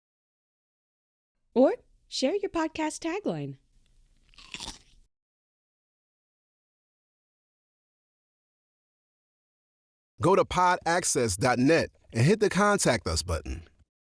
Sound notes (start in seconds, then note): 4.2 crunches the pickle